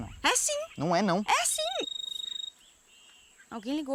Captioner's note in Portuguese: Celular tocando